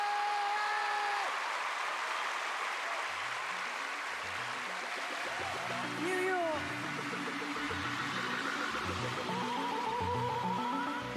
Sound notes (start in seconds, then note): 3.7 cheers and applause